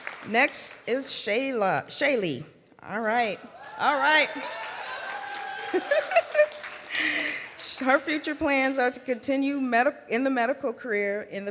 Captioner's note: laughs